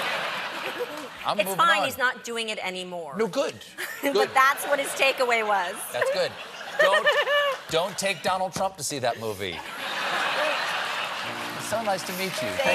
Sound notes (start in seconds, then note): 0.0 laughter; 7.1 laughter